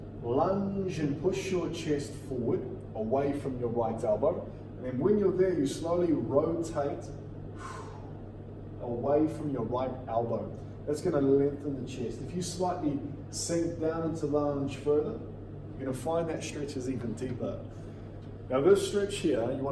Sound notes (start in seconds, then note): 7.4 exhales